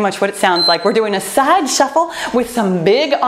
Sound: timer beeping

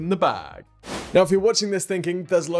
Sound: screenwipe whooshes

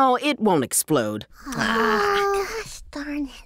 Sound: sighs

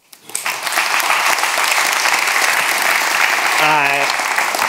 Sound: audience applauds

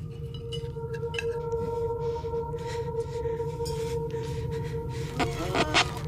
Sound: eerie music; woman pants; record skips

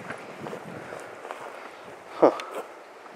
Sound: wind whooshing

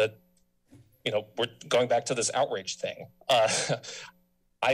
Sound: chuckles

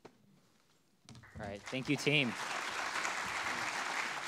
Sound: audience clapping

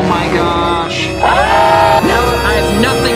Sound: screaming

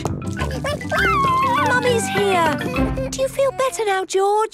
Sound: George crying

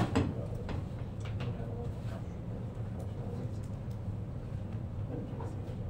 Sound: students chattering quietly

